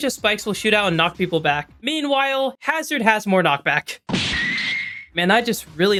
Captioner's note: anime noise